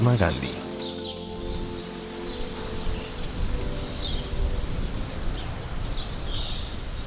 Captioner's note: sonidos silvestres